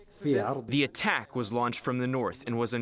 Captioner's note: through translator